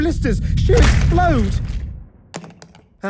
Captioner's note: wet explosion; glasses bouncing